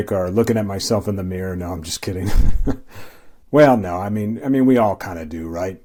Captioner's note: chuckle